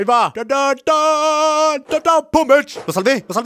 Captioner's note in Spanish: tarareo , según música